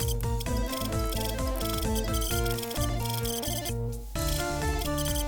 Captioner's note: game sound effects